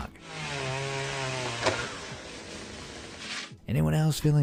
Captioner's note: chainsaw buzzizng